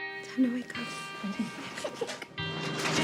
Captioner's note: girl giggles